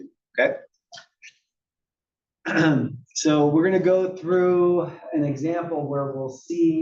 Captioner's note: cough